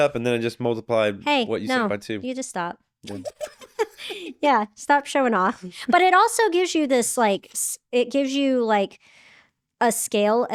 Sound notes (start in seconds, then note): 3.1 laughing